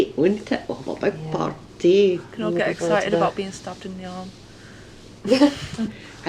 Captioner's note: laughs